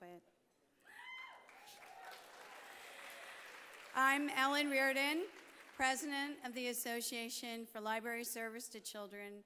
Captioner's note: applause